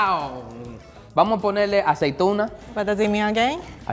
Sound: speaking in foreign language

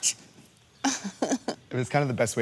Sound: chuckling

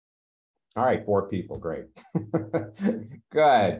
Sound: laughs

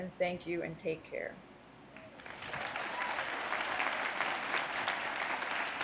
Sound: applause

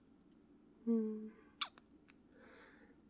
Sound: kiss

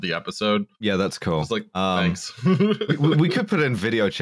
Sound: laughs

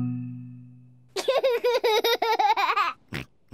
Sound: giggles

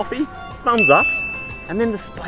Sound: bell ringing

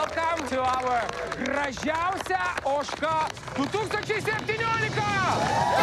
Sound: speaking Lithuanian; cheers and applause

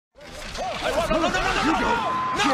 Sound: Steve Austin shouting

